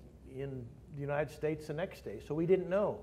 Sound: none

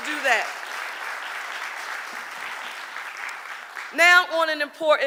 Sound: audience applauding

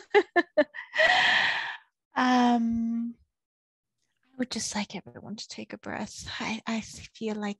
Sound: laughs

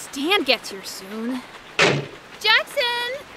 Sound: door closes

